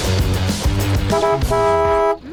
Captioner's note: honking